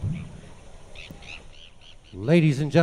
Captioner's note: bird tweeting